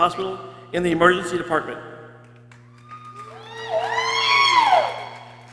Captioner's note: people cheering